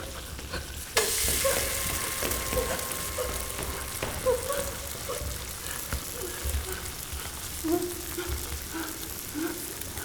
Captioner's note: gasping